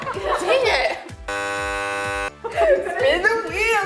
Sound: wrong buzzer

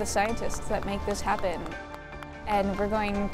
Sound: clapping

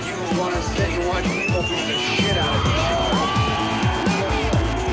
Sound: crowd cheering

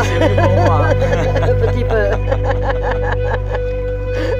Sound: speaks French; laughter

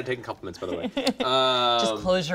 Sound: laughing

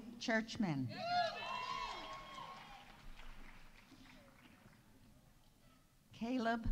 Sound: audience cheering; audience applauding

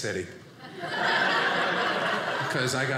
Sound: audience laughing

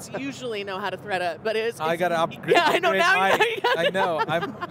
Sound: chuckling

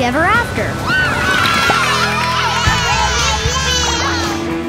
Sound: cheering

